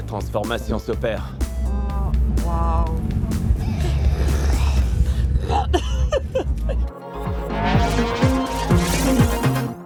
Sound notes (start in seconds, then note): 3.4 growling sounds; 3.9 laughter